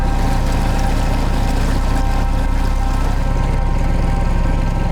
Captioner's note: boat engine roaring